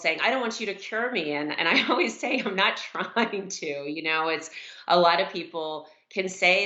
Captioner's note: laughs